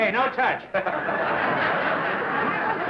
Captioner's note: laughter